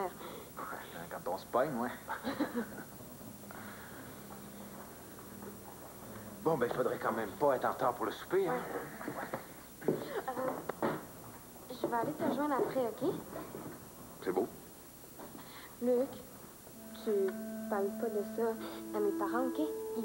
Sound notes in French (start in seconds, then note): 2.1 Rires